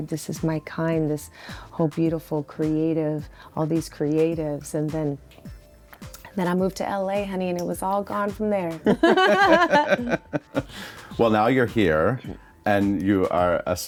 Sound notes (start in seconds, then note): 8.8 both laugh